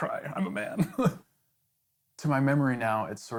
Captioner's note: laughing